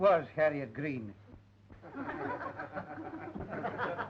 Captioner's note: snickering